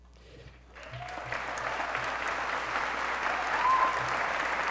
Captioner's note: applause